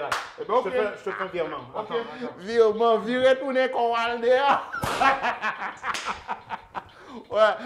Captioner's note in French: rires; rire